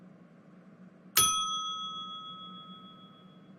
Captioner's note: bell rings